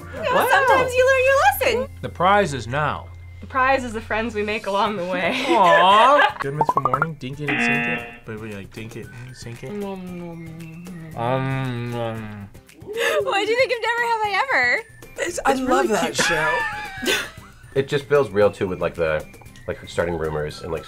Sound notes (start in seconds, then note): 5.8 laughs; 7.5 buzzer; 16.2 laughs